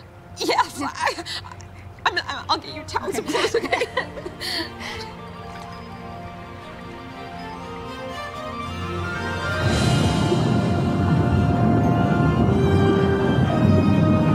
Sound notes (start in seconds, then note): 3.1 both laughing; 8.9 triumphant music; 8.9 water gurgling